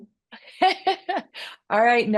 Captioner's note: laughs